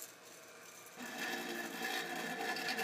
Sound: whirring

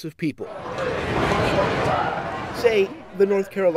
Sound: crowd buzzing

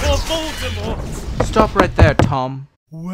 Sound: footsteps

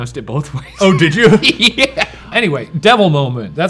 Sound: laughs

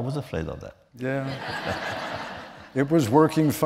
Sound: laughter

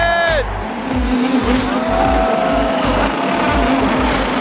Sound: engines roaring

